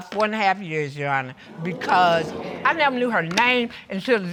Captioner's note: audience exclaims